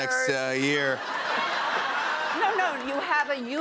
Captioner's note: laughter